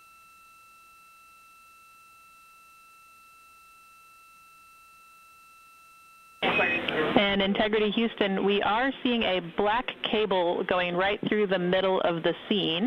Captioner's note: silence